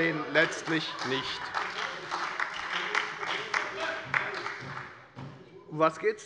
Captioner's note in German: Heiterkeit und Beifall bei der FDP und bei Abgeordneten der SPD